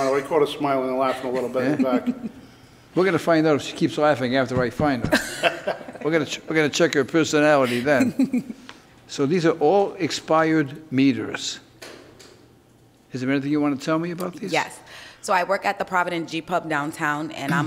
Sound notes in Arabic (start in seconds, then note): 5.0 المفتش كوين يضحك; 7.6 ضحك لاشارا